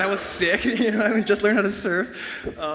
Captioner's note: audience cheers